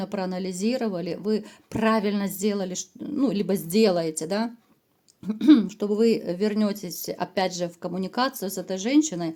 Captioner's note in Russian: откашливается